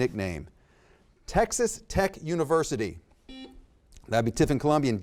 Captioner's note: buzzer beeps